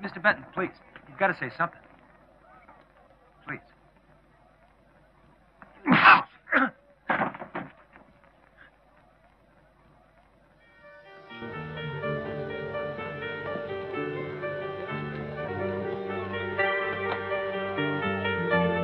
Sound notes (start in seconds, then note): 7.1 thumping; 10.7 sad music